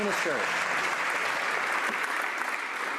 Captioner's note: some Applause